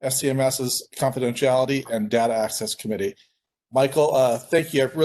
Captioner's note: Arabic